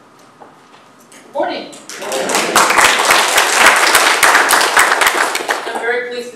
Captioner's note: applause